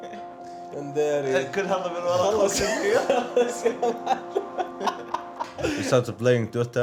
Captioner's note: chatter and Laughter